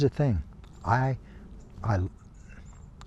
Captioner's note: sighs